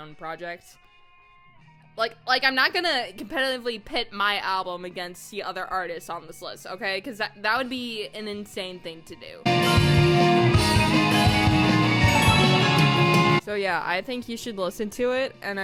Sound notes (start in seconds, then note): 10.7 sparkly chime synth noise